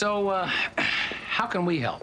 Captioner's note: clears throat